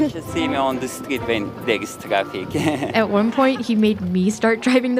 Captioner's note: laughs